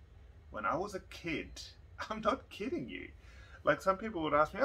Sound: chuckles

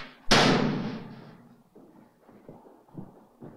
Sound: locker slamming

